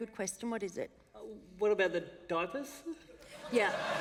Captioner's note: laughter